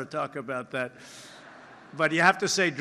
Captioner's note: laughter